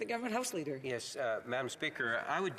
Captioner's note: speaking French